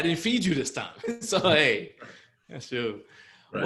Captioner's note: chuckles